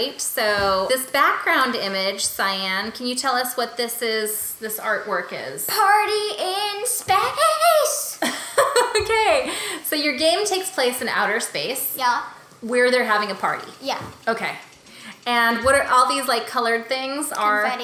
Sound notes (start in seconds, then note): 8.2 laughing